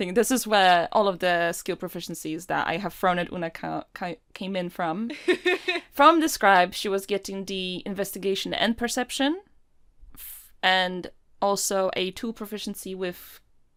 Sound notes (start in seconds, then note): 5.2 Rover laughs